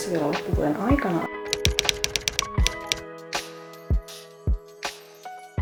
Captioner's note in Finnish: kirjoituskoneen naputusta